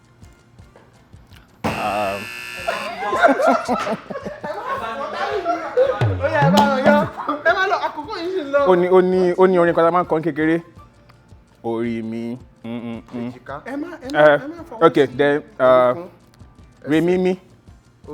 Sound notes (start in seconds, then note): 1.6 buzzer pressed; 11.7 sings